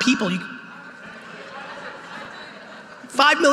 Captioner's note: audience responding